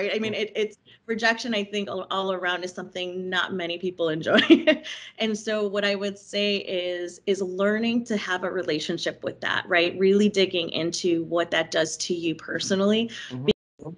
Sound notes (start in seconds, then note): 4.2 chuckling